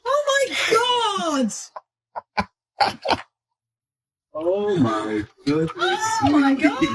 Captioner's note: laugh